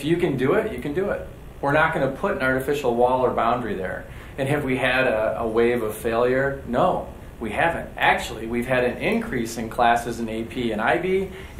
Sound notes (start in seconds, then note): none